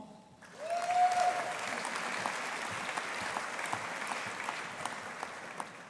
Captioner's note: audience applauding